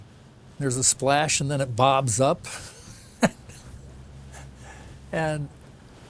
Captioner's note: laughs